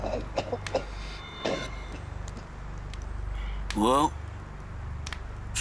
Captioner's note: coughing; gurgling, coughing